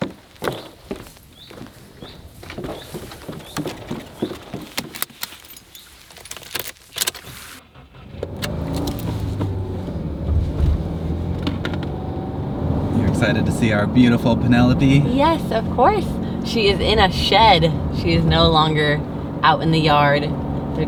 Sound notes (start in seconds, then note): 0.0 walking on wooden deck; 2.5 birds tweeting; 5.3 seat belt being buckled; 7.1 car starting; 9.3 car running